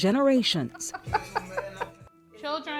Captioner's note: laughing